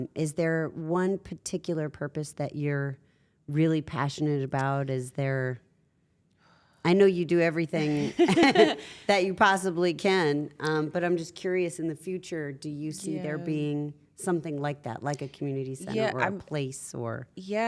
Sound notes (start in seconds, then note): 7.8 laugh